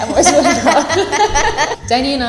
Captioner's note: laughing